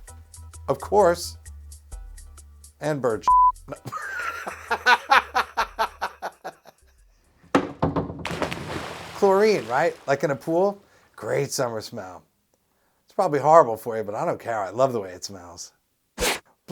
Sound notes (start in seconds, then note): 3.8 laughs; 8.2 SFX: Jump off diving board into pool